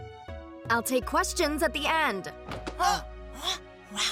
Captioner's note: both grunt